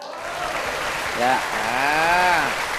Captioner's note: clapping